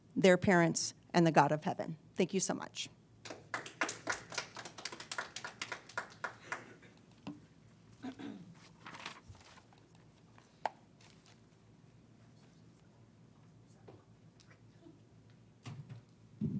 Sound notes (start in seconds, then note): 3.2 crowd applauding